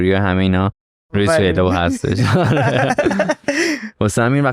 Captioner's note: laughs